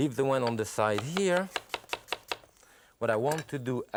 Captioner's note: knife slicing